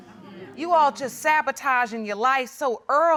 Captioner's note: audience murmuring in agreement